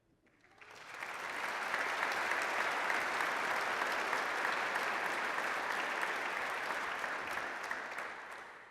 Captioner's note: applause